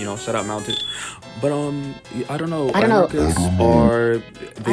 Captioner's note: exhales